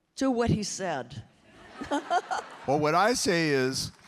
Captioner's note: everyone laughing